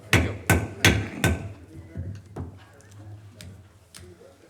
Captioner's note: gavel tapping